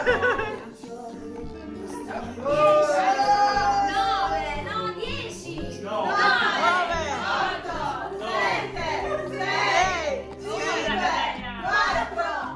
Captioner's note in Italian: Risate